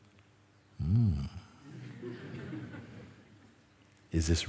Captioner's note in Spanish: risas